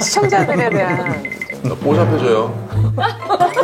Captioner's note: confident